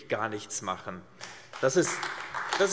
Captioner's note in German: Beifall AfD